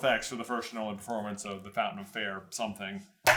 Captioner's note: none